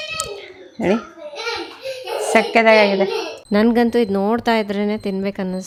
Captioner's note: laughs